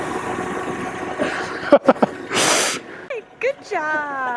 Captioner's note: laughs